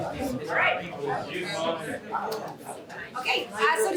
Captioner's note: indistinct chatter